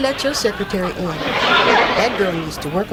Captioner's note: audience laughs